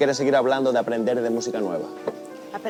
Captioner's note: hitting Table